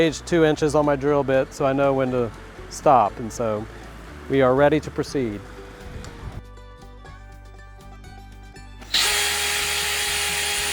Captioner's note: drill sound